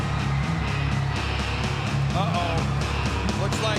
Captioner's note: audience cheering